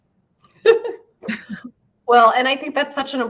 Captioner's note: both laugh